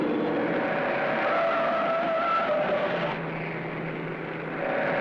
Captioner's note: tires screeching